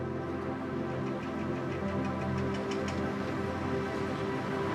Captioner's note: construction sounds